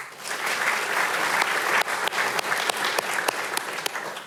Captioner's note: audience applauding